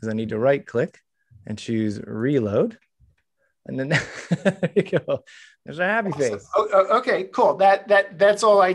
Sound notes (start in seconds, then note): 2.6 laughs